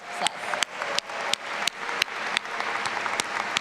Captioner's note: all applauding